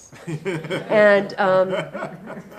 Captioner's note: audience laughing